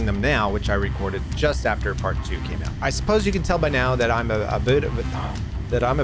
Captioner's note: stutters